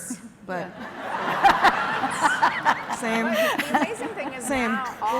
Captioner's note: laughter